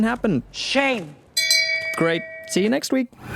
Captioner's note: bell rings